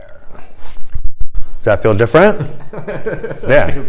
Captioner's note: laughter